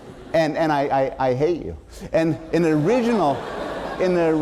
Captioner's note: laughter; laughter